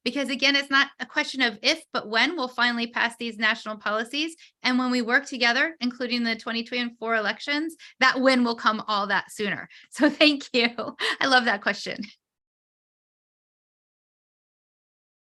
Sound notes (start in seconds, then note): 10.8 chuckling